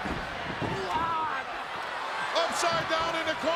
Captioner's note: Flair shouts